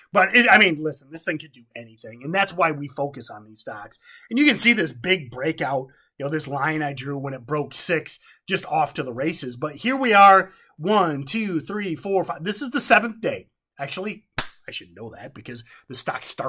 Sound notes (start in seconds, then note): 14.3 clap